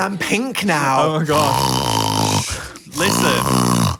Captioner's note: snorts